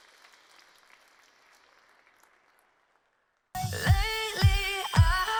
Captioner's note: applause